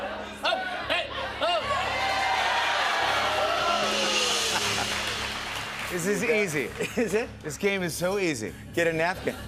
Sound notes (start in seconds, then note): 0.0 audience shouting; 1.4 cheers and applause; 2.2 laughs